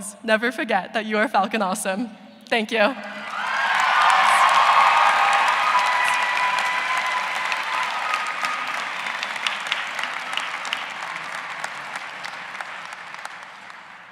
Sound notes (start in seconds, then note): 5.8 cheers and applause